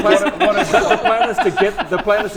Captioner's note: laughs